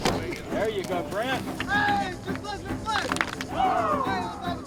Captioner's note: players Clapping